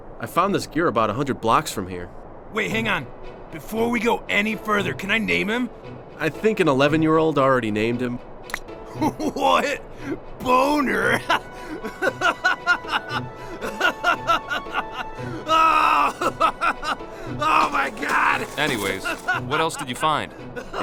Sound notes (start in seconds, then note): 11.0 bursts out laughing; 17.8 laughing; 20.5 continues laughing off screen